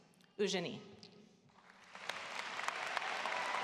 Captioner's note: cheering, applause